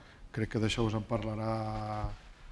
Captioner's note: speaking spanish